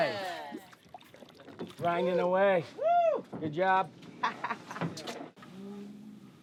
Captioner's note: cheering